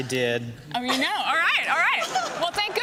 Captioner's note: laughter